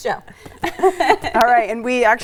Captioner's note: both laughing